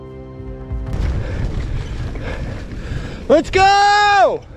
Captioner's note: heavy panting